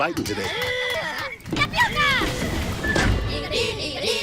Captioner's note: Minions making noise